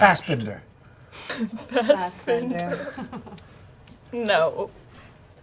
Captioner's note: laughs